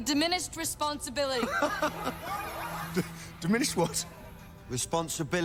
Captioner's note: laughs